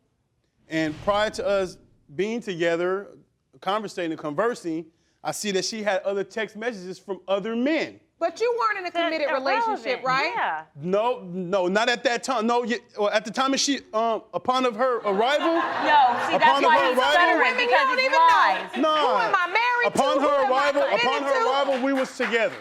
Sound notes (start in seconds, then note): 13.5 stammering; 15.3 crowd laughing